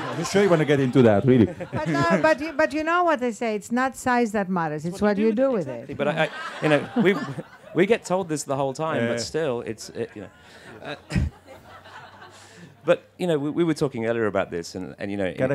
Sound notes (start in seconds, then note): 10.6 laughter